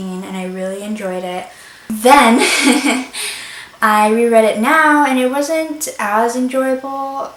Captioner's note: nervous laugh